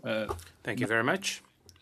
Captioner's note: speaking French